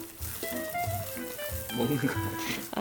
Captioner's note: nibble nibble